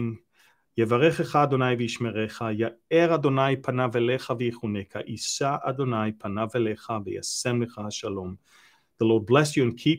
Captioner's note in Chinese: 用希伯来语亚伦的祝福祷告